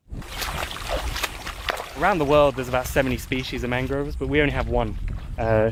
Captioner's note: water sloshing